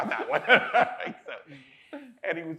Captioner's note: people chuckling; laughs